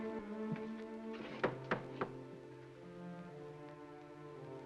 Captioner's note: ominous music; knocking on door